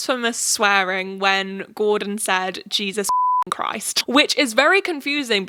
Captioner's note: beep